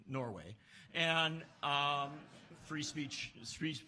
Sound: laughs

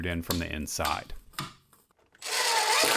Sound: hammering; impact Drill being used

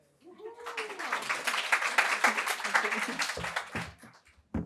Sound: crowd applauds

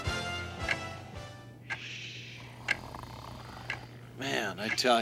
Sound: clock ticking; man snoring

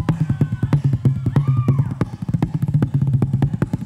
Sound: cheering

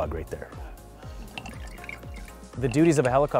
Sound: pouring sound

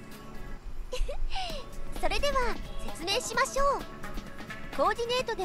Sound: giggle

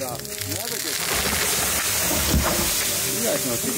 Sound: tree crashes down

